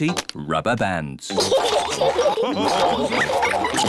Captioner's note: all laugh